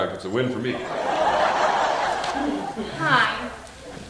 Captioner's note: audience laughing